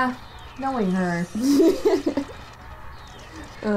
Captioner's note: laughter